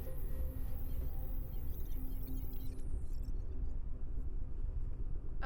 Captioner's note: screen beeping and buzzing